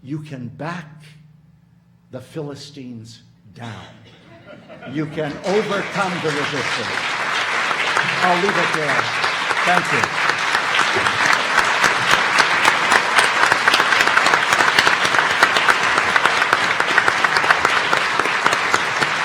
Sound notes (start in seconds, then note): 5.3 audience laughing; 8.3 audience applauding; 12.9 audience applauding